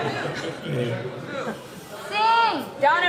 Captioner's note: laughs